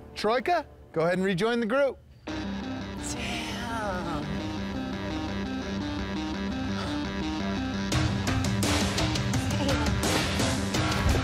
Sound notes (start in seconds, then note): 2.2 dramatic music; 6.5 scoffing